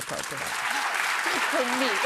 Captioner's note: audience applause